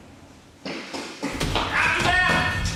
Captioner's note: running footsteps